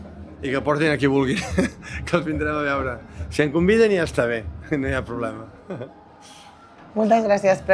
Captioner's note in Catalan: rialles